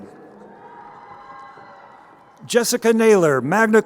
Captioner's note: crowd cheering